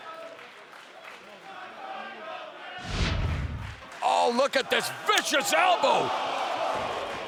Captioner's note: applause